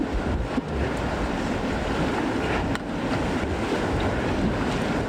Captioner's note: water rushing